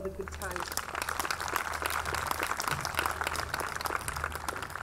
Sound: audience clapping

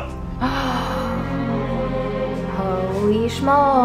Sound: somber music; gasps

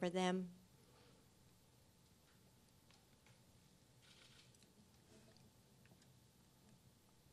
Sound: silence

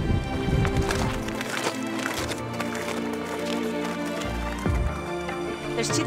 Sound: ice crunching

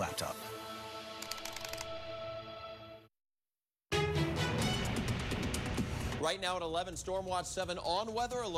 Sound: typing clicks

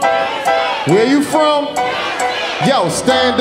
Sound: audience shouting

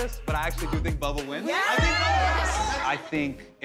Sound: cheering

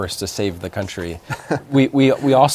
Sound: laughter

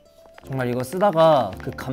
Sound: keyboard

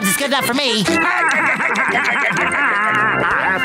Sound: laughing

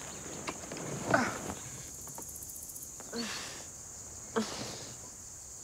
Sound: grunts

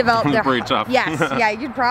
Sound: laughs

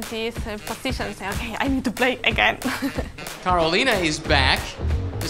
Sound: laughing

